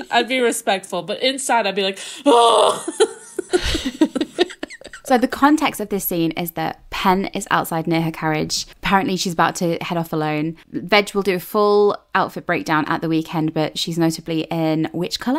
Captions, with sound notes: I'd be respectful, but inside I'd be like, oh. (laughing) So the context of this scene is that Pen is outside near her carriage. Apparently she's about to head off alone. Veg will do a full outfit breakdown at the weekend, but she's notably in which color?